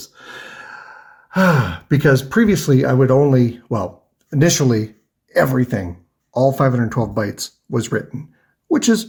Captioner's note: sighs